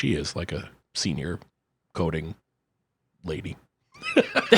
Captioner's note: laughs